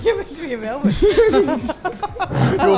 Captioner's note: laughing